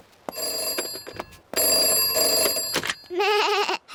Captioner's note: ringing; bleats